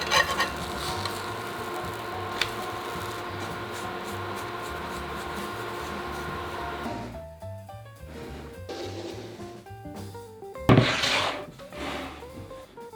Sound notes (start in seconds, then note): 2.8 brushing; 10.7 board sliding